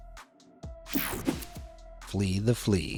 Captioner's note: air whooshing